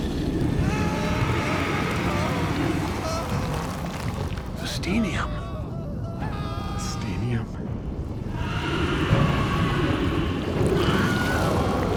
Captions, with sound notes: (people screaming) - The Steenium. - The Steenium. (people screaming)